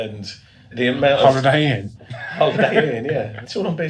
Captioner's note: laughs